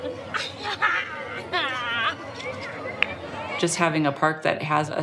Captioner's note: laughing